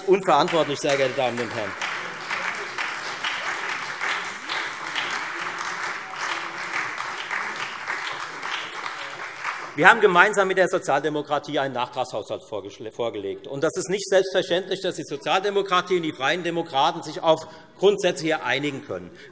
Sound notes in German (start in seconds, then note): 4.1 Beifall Freie Demokraten, SPD und vereinzelt DIE LINKE